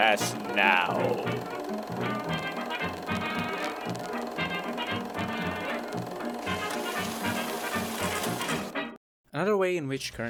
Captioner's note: projector sounds